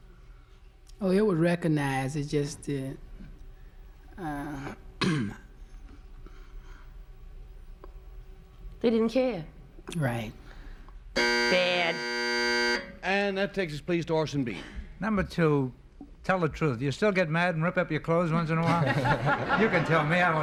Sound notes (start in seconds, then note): 11.1 buzzer sounds; 18.5 laughter